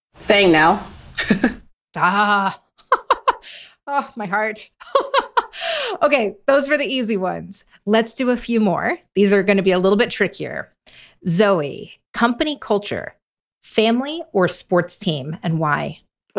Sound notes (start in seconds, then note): 2.0 laughs; 4.6 laughs